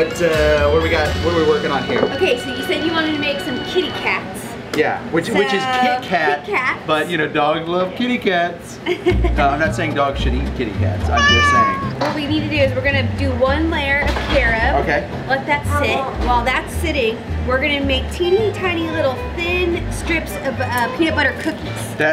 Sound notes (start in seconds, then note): 8.8 laughs; 11.1 meows loudly